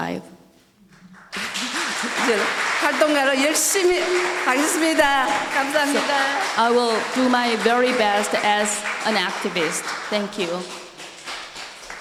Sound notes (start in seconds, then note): 1.6 audience applauding; 3.8 speaking foreign language